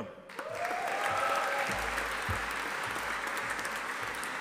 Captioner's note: audience applauding